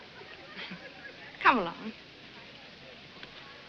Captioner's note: chuckles